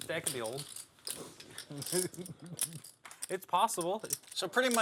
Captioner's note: laugh